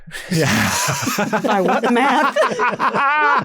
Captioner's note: laughs